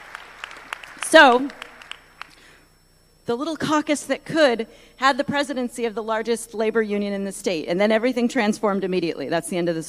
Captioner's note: applause